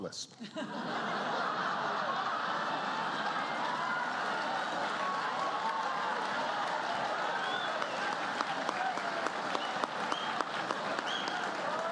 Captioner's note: laughter, applause